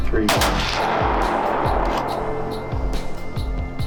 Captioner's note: guns firing